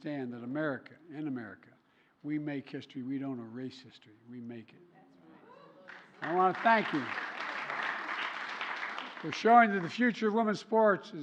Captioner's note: applause